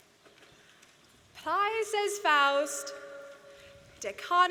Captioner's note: speaking in latin